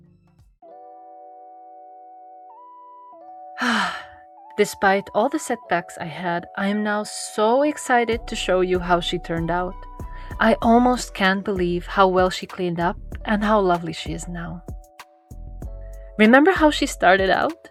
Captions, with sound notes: *Deep sigh* Despite all the setbacks I had, I am now so excited to show you how she turned out. I almost can't believe how well she cleaned up and how lovely she is now. Remember how she started out?